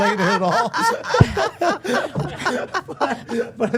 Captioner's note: everyone laughing